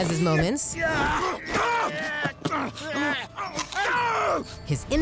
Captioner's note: grunting